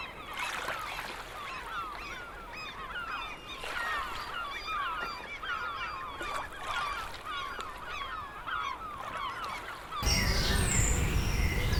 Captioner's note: birds chirping